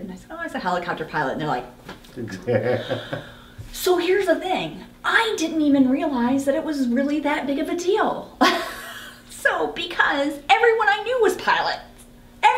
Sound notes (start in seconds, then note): 2.4 laughing; 8.7 laughs